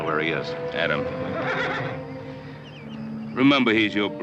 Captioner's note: horse whinnies